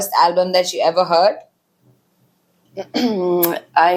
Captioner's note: clears throat